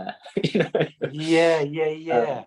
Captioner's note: laughter